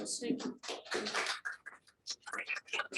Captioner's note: audience applauding